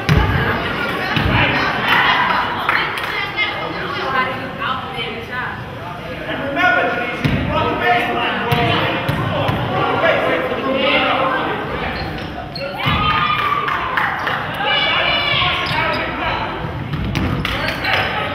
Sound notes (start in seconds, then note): 13.2 crowd claps